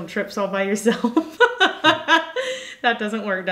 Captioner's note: laughing